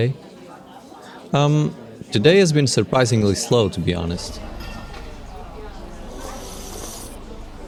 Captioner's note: sips